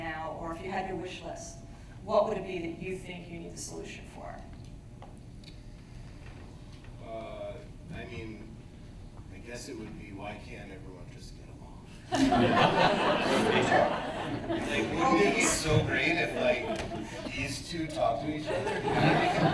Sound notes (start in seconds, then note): 12.1 laughter; 18.4 laughter